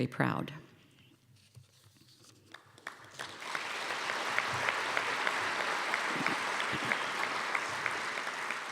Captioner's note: applause